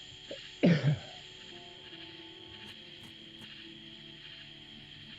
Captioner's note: Dave coughs; gentle music